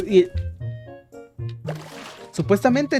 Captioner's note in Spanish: waterdrop epico